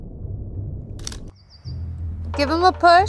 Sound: camera clicking; birds chirping

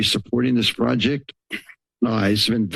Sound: clears throat

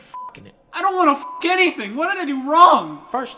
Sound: beep

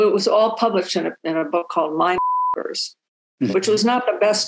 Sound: beep

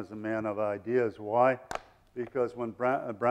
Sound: none

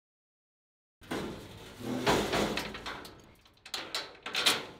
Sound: metal clanking

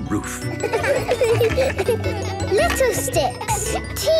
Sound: laughter

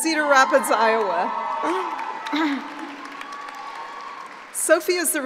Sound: cheering and applauding

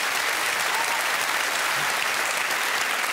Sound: audience clapping

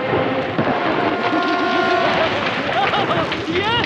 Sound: thunder crashing, machine beeping, crackling; Leo laughing maniacally

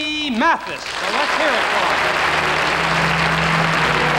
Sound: audience applauding; wistful music

